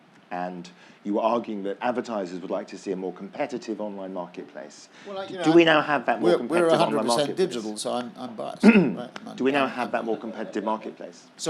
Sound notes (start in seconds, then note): 8.6 cough